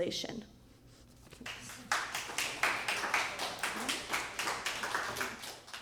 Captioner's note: applause